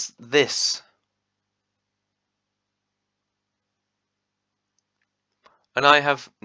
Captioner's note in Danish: another long pause